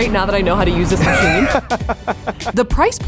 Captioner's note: laughs